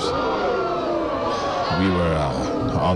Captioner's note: crowd booing